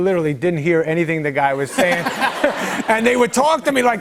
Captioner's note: laughter